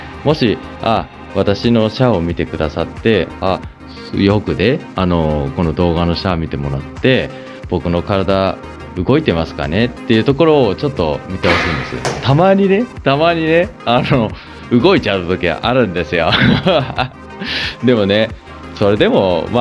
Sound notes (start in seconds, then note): 16.2 laughter